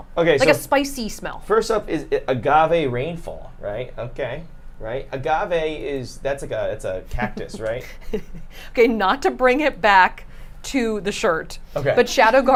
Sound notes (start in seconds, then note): 7.2 laughs